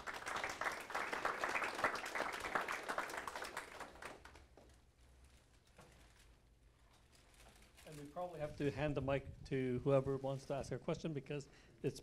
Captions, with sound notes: I'm happy to answer some questions. (crowd clapping) - And we probably have to hand the mic to whoever wants to ask a question